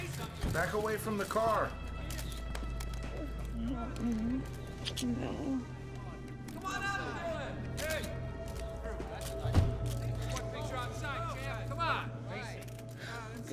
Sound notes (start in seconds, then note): 1.9 cameras clicking; 3.2 both moaning; 7.1 Nikita moaning